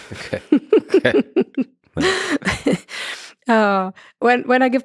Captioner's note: Lex and Anna laugh